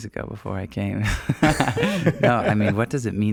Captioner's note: laughing